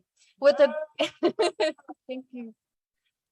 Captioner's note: laughing